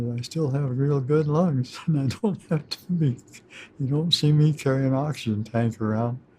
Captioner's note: chuckles